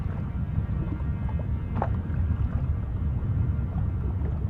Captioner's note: water sloshes